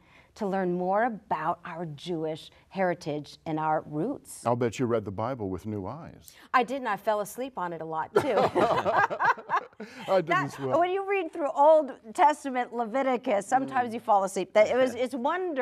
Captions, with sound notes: That was a wonderful foundation to learn more about our Jewish heritage and our roots. I bet you read the bible with new eyes. I did, and I fell asleep on it a lot, too. [laughing] When you read through Old Testament Leviticus sometimes you fall asleep.